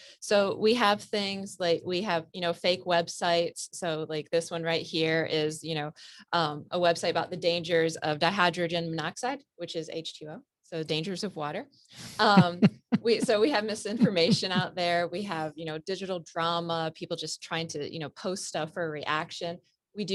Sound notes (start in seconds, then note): 12.2 laughs